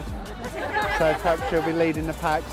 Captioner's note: laughing